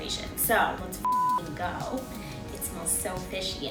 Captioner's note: beep